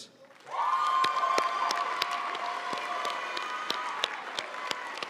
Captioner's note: audience cheering and applauding